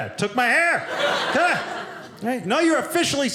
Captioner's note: audience laughing